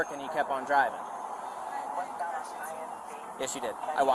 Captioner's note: radio chatter